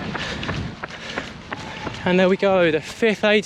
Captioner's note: runner breathes heavily